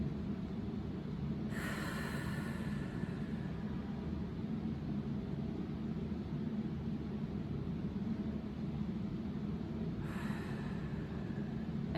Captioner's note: breathing